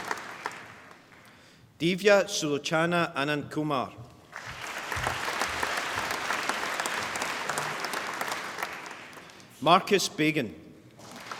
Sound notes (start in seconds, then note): 4.3 applause